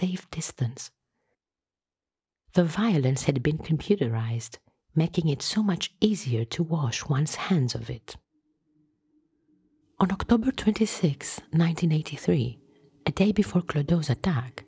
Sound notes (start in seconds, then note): none